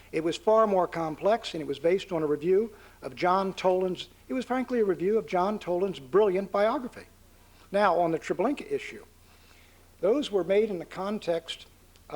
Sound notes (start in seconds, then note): none